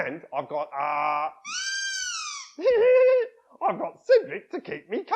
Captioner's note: loud squeak then Scruff laughs